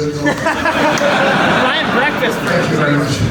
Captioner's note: audience laughs